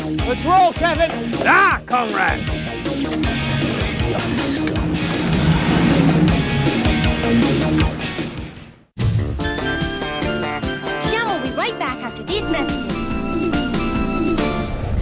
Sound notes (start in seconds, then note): 4.0 under his breath